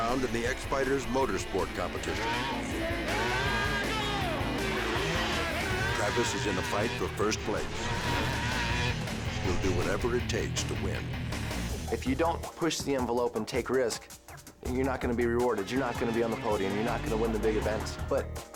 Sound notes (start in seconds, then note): 1.8 engine revving; 2.9 announcer shouts in Spanish